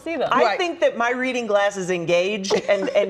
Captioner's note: laughter